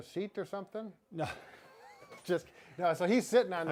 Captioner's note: laughing